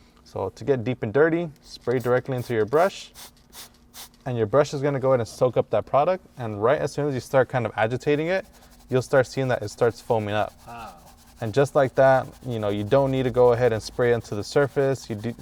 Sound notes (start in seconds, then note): 3.1 spray bottle mists